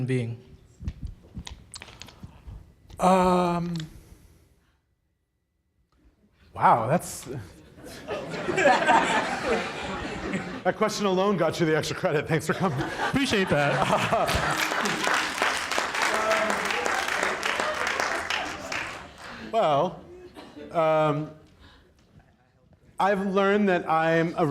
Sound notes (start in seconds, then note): 10.7 audience laughs; 16.2 audience applauds